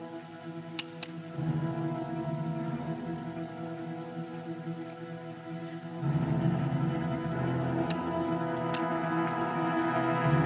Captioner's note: hammer Cocks